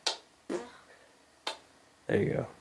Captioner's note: hand fart